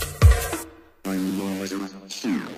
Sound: Robotic voice

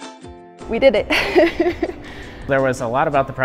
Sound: laughter

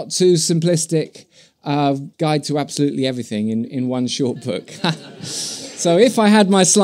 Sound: laughter

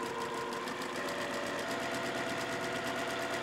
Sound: stitching

